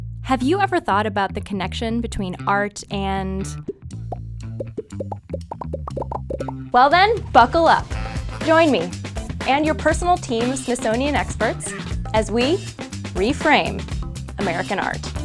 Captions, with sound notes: Have you ever thought about the connection between art and... (popping) Well then, buckle up. Join me and your personal team of Smithsonian experts as we Re:Frame American art.